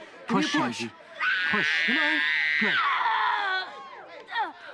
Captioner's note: screams